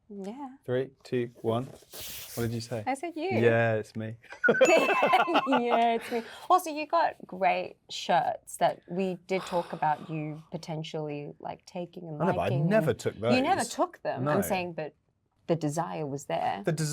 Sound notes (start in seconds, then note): 4.3 both laughing; 4.4 bell dings; 9.4 Luke sighs